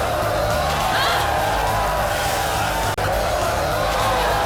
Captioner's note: water splashes; woman yells